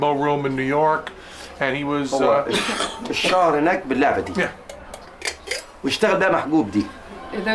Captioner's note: non-english speech